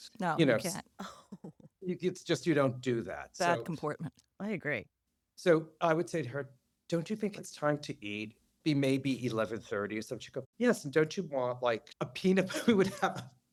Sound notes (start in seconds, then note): 1.3 laughter